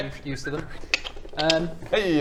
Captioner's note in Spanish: clic clic